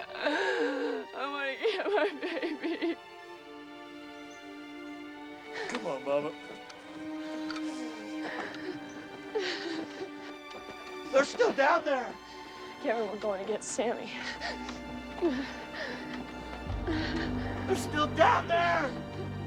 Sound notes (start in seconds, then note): 7.1 crying; 14.3 sobbing